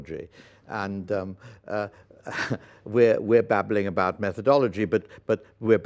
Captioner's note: laughs